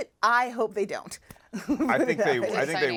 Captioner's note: chuckles